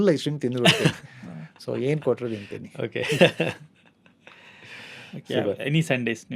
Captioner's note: laughs